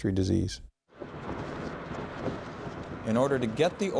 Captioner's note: wind blowing